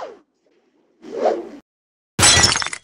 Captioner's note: throw swoosh; glass break